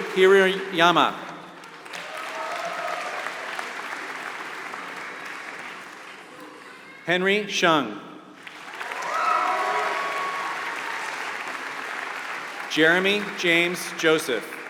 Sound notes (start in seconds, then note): 0.0 applause; 8.3 applause